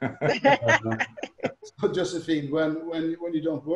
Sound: laughs

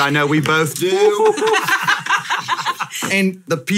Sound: hosts laugh

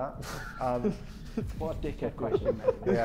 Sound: Sidemen laughing

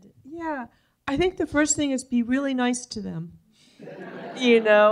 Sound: laughter

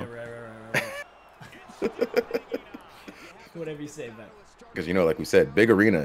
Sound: laugh

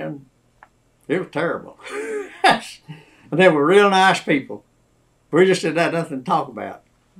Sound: laughs

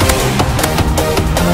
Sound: hitmarker click

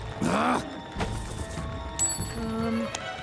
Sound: growls

